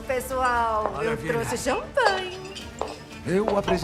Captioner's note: sing-song